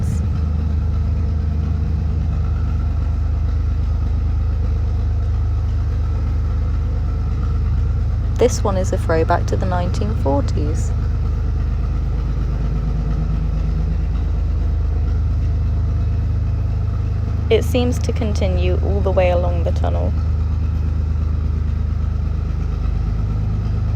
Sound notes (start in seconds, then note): 0.1 narrowboat engine sound; 11.1 narrowboat engine sound; 20.9 narrowboat engine sound